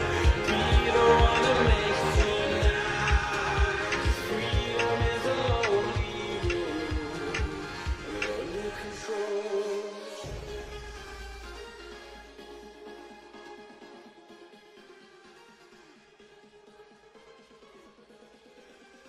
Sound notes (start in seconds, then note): 7.6 clock ticking